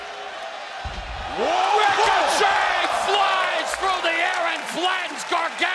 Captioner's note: cheers and applause